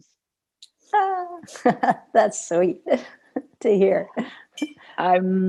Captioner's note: laughter